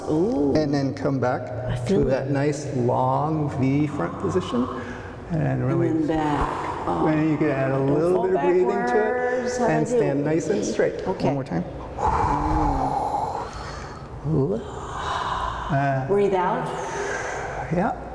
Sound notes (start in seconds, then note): 13.5 inhaling; 16.6 exhaling